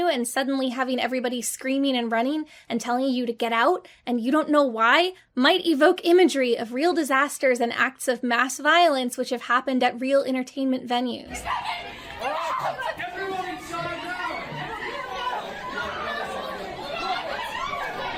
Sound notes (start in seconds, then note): 15.0 park guests screaming